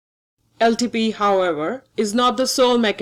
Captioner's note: voiceover